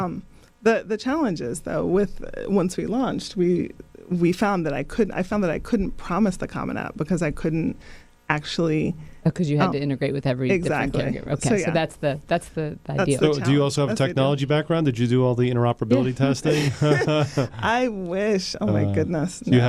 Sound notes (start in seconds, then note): 16.4 laughing